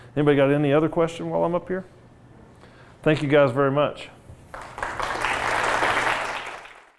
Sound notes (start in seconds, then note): 4.5 applause